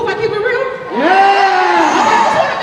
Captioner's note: cheering